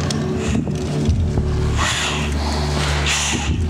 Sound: sounds of heavy breathing

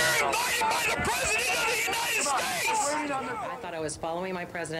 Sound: chanting

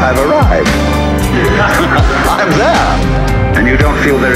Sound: laughter

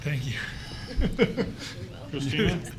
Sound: laughing

